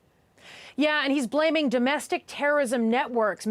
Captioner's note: none